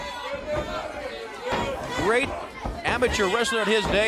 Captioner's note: crowd cheering